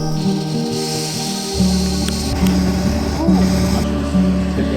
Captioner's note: gas whirring